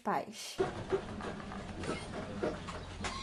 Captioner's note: bus arrives